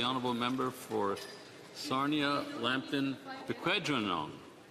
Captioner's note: some Applause